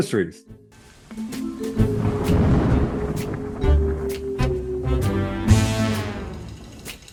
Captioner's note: suspenseful music; thunder rumbling